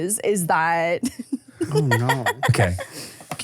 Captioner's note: laughs